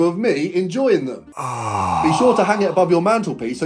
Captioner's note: moans